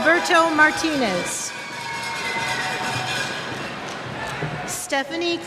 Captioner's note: cheers